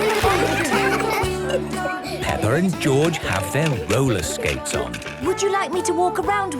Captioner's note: giggling; laughter